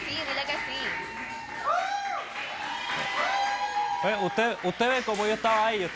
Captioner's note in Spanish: Algarabía y aplausos